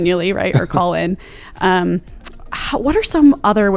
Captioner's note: chuckles